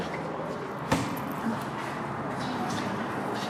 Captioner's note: thump